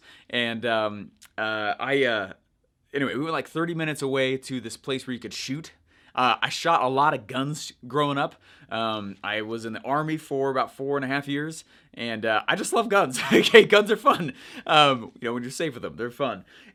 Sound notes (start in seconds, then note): 13.2 laughing